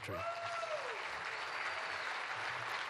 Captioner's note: applause